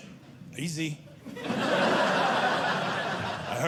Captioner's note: audience laughing